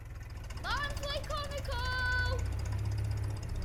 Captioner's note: Newspaper seller shouts - Barnsley Chronicle!